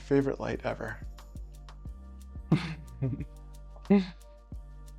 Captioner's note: laughs